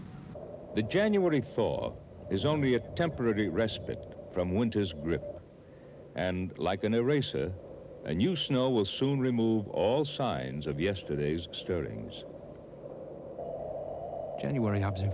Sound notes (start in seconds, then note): 11.2 wind howling